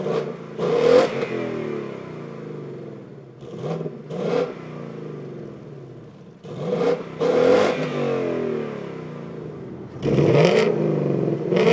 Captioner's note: engine Revs